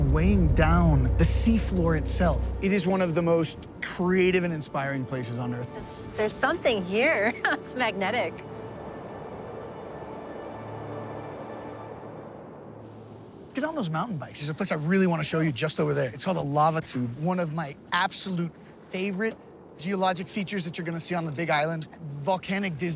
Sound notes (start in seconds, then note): 9.5 laughs; 10.9 wind whooshing